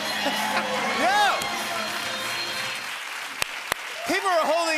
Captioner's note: applause